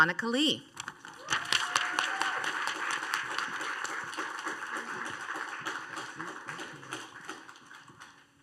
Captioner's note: applause and cheers